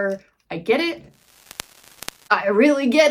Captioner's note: static